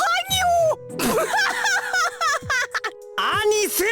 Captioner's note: hysterics